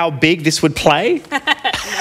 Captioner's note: laughs